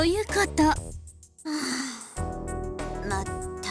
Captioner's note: sigh